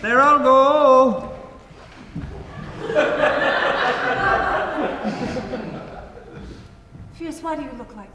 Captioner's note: audience laughs